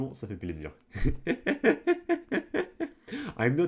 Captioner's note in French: Rires